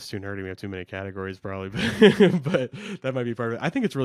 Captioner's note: laughs